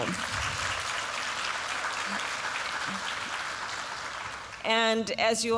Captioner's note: applause